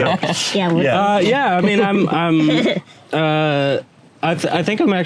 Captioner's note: indistinct chatter and laughter